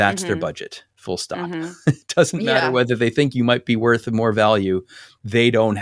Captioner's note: laugh